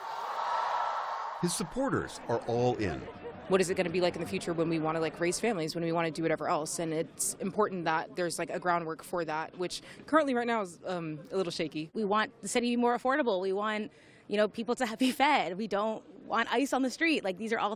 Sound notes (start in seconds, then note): 0.0 cheering